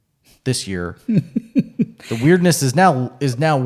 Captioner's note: laughs